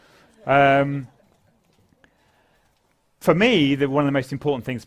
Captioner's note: laugh